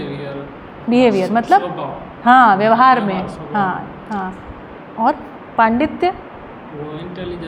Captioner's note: nature